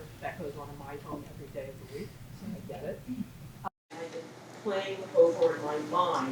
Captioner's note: woman speaks off microphone